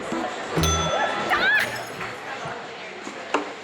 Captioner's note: ding